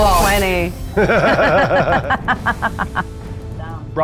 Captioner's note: laughs